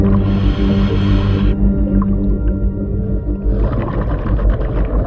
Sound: breaths in

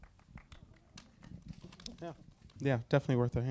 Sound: audience members applaud

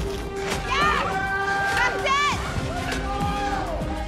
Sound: cheering

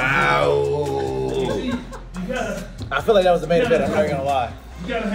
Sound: laugh

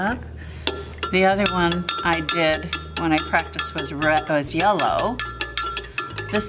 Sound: spoon clanking against glass

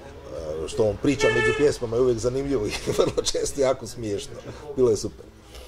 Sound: laughs

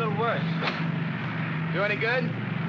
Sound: switch pops

